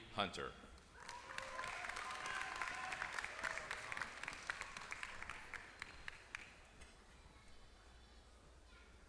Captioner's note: applause